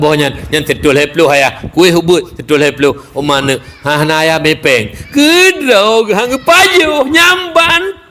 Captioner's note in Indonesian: berteriak